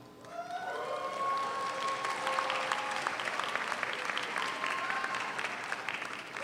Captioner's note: audience cheers; audience applauds